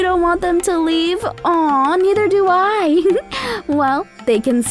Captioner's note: giggles